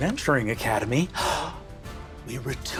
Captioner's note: gasps